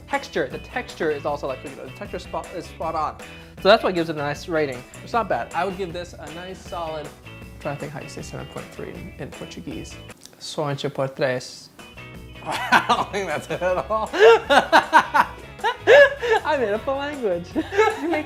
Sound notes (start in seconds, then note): 10.6 speaks Portuguese; 14.5 laughing